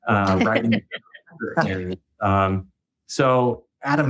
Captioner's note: laughing